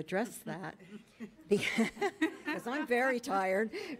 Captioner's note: people chuckling